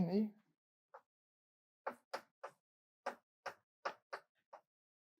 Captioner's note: chalk taps